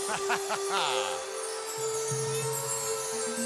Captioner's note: McMahon chuckles; peaceful music continues